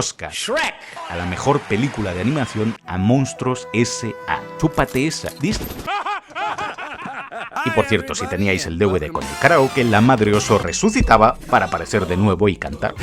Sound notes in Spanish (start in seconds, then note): 5.8 ríen como colegas